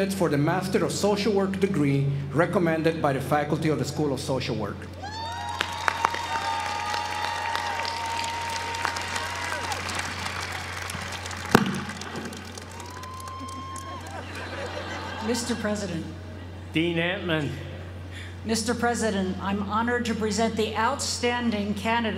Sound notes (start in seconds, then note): 5.3 applause